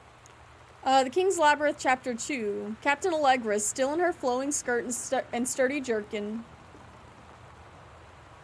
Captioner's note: rhythmic tapping / rattling